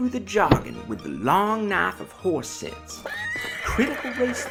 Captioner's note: knife chop; horse neighs and gallops away